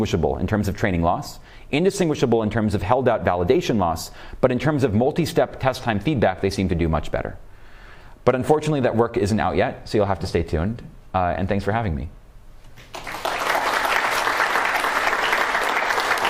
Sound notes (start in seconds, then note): 12.8 applause